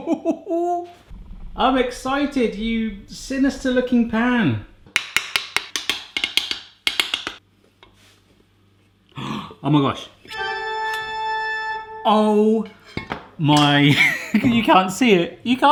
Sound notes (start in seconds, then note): 4.9 tapping; 10.7 dynamic music; 13.1 laughs